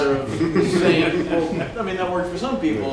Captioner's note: laughter